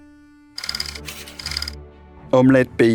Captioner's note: slide rolling